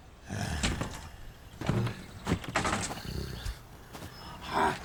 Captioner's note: zombie walter grumbling